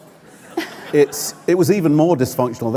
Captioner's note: laughter